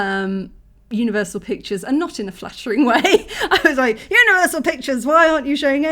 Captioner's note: laughing